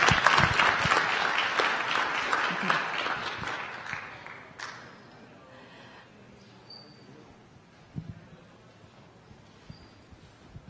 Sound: applause

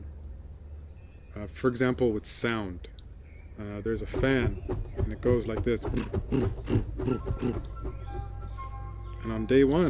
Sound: fan sound imitation

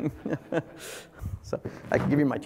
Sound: laugh

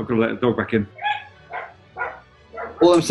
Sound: dog barking

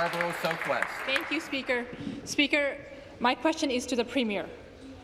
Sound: applause

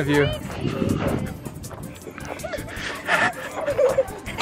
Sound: fast panting

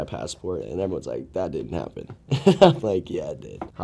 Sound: laughs

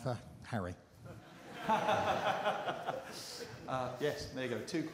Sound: laughter

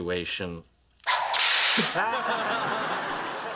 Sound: sound of a cracking whip

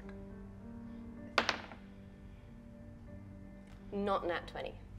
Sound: die taps table

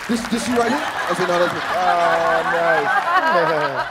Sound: laughs

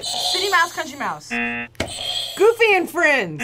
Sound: buzzer rings

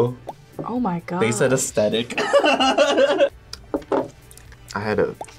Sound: laughs

